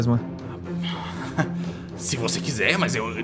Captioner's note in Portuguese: risada